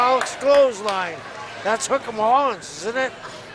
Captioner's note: crowd yelling drowning voice